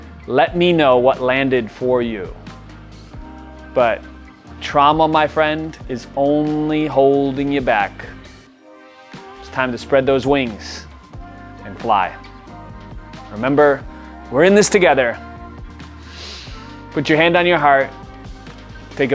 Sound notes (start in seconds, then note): 15.9 inhales sharply